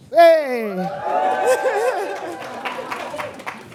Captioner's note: cheering